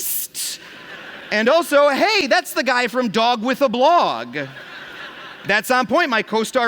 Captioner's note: laughter